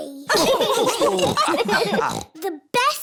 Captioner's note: laughter